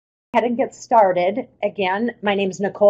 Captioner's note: voiceover